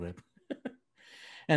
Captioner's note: laughing